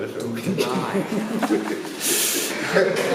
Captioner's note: laughing